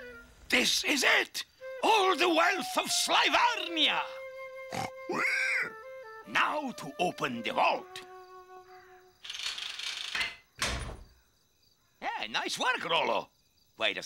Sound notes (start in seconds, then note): 4.6 rolo grunting